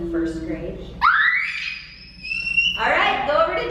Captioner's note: screams